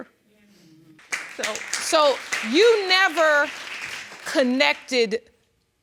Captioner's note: audience applauding